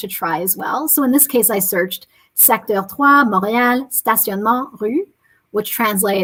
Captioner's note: speaking french